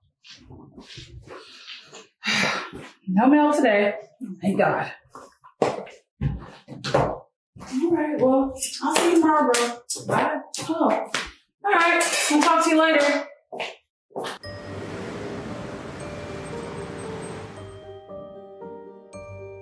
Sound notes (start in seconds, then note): 14.2 footsteps